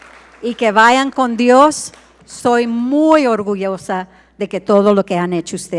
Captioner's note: speaks in foreign language